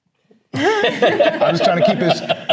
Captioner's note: loud laughter